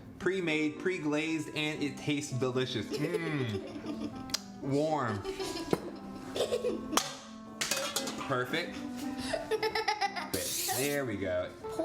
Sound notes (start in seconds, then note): 2.9 laughing; 7.6 plate clacking; 9.2 laughing; 10.2 spray splatting